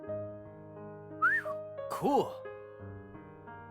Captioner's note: whistles